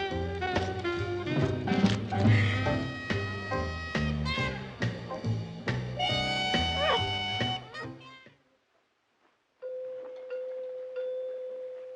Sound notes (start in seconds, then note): 6.4 sobs; 9.4 bell Chiming